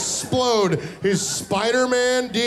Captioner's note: audience laughing